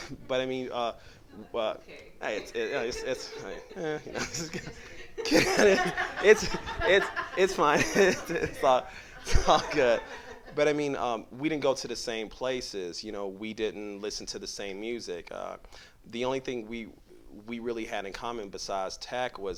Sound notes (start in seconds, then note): 7.2 continued laughter